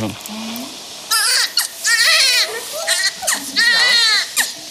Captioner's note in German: Schreien